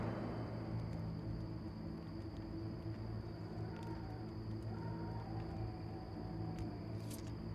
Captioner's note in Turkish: Cırcır böceği sesleri